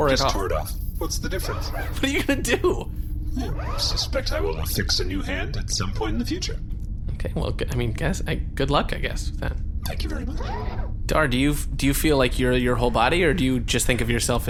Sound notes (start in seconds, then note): 1.4 half laughing; 3.8 shrugging tone